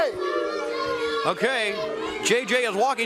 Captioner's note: crowd chatter